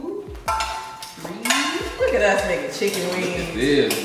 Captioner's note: clanking